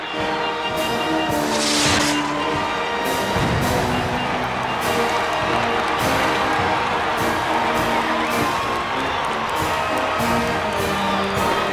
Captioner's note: sounds of crowds cheering, fireworks and marching band music